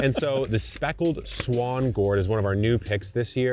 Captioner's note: laughing; catalog thumping